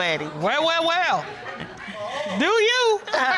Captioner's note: laughs